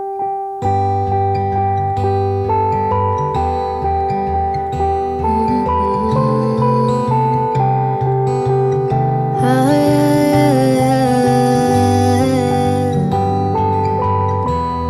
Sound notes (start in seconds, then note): 5.1 humming